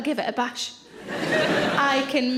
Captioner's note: audience laughs